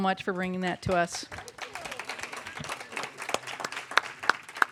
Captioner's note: applause